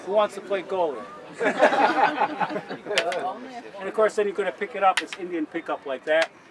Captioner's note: laughter